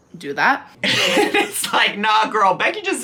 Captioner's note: laughs